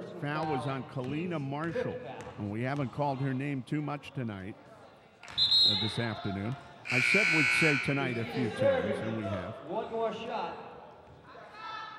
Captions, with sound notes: Foul was on Kelena Marshall. We haven't called her name too much tonight, or this afternoon. (buzzer dings) I said we'd say tonight a few times, and we have.